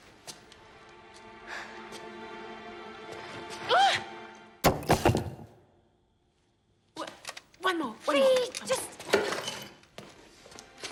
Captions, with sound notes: Aah! (BRICK THUDS) W... One more, one more. Fi, just...